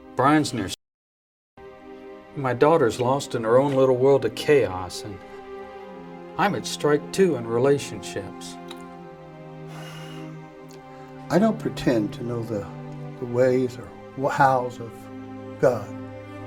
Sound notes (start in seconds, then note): 9.6 sighs